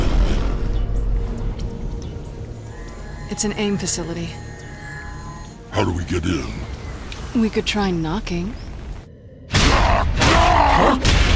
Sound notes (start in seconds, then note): 9.2 loud banging